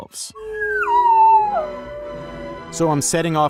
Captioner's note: slide whistle blowing